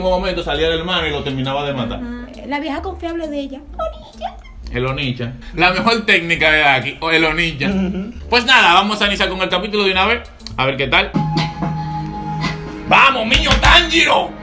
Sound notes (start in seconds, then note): 2.5 with her high-pitched voice